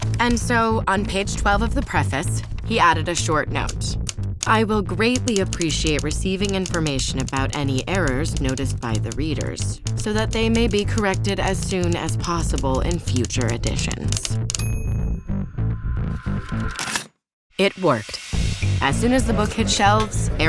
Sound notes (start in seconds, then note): 3.9 typewriter keys clack; 16.8 paper rips; 18.3 upbeat music